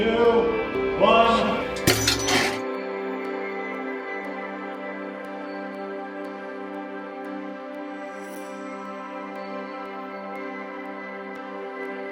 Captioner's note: clank sound then music